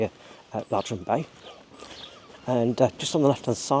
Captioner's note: birds cawing